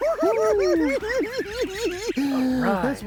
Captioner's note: hoo hoo hee hee